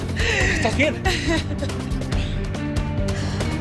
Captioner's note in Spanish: Solloza